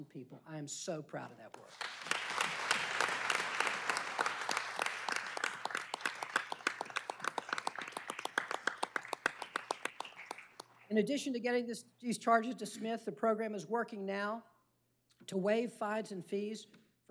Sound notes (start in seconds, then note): 8.5 applause